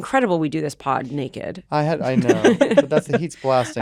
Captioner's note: chuckle